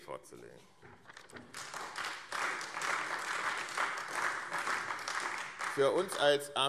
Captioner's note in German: Beifall AfD